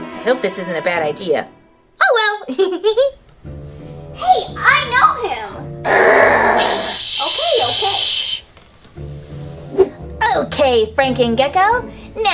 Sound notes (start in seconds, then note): 2.4 laughs; 5.8 students shushing